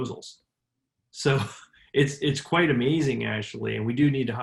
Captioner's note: laughs